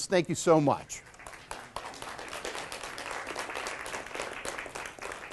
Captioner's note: clapping